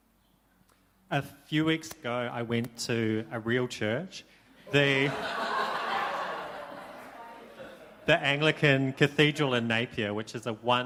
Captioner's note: laughter